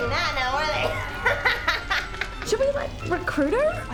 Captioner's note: laughs